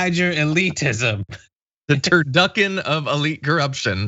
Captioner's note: laugh